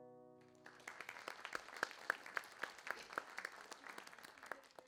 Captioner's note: audience clapping